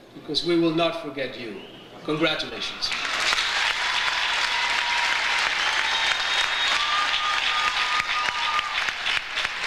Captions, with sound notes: because we will not forget you, congratulations. (audience cheers) (audience applauds)